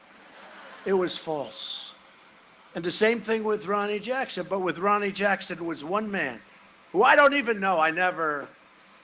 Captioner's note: booing